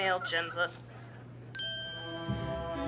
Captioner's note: dings